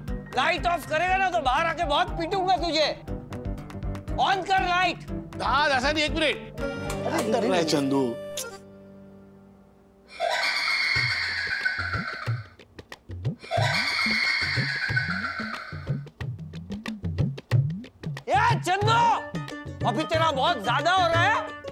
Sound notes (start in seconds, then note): 10.1 maniacal laugh; 13.4 maniacal laugh